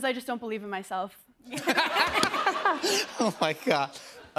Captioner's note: laughter